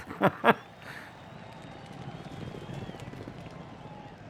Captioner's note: laughter; crowd cheering